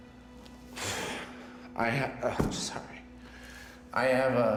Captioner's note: exhales